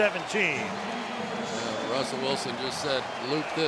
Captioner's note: pa announcement